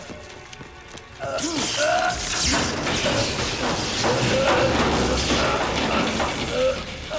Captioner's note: Dalton yells; flesh squelches; electricity sparks; Gammon groans